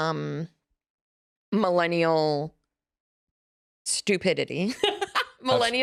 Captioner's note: laughs